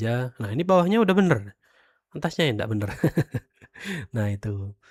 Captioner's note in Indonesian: tertawa